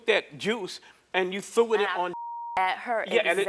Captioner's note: beep